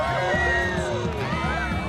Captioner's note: cheering